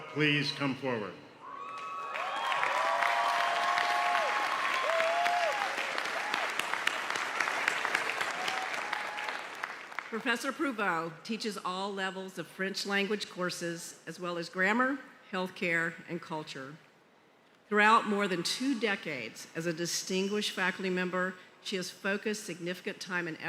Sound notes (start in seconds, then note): 10.8 applause